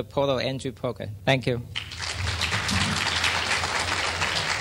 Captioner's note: clapping